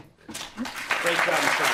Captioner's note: applause